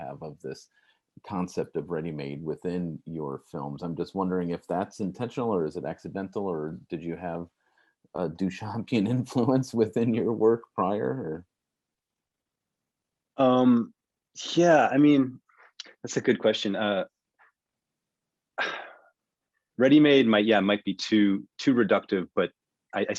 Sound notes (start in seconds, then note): 18.6 sighs